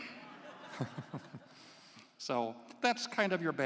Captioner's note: laughs